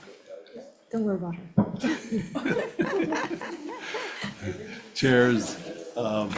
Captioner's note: everyone laughs